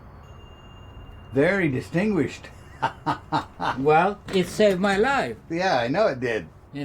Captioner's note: laughing